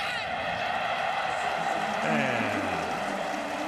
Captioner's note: cheering